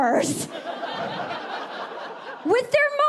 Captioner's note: audience laughing